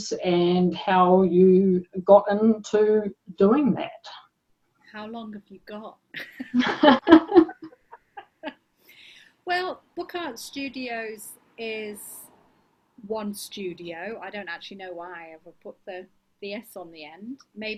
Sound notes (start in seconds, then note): 6.2 both laugh